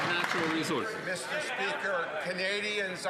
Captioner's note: some Applause